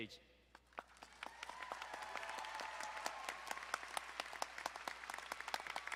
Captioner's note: crowd applauding and cheering